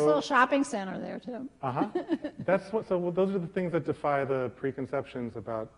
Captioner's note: laughter